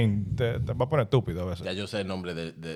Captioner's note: speaking In Foreign Language